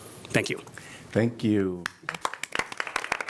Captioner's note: applause